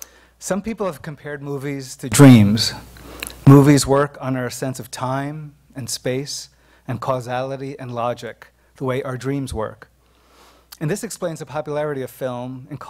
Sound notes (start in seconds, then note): none